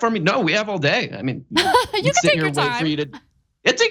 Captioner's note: laugh